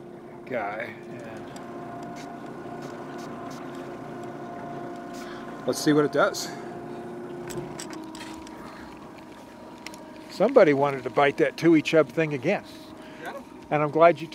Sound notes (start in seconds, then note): 1.9 spritzing; 8.7 boat engine idling